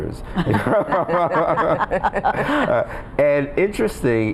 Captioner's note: group laughing